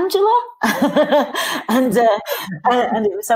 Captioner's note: laughing